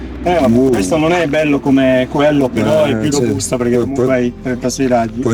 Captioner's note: speaking Italian